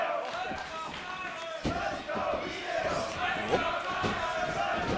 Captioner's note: fans chanting